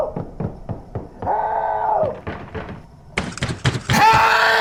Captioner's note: banging on door